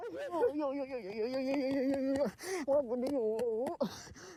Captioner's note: speaks foreign language